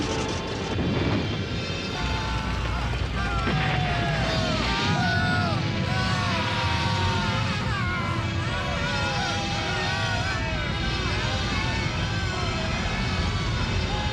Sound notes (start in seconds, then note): 4.8 screaming